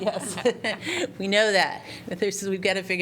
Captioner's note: laughter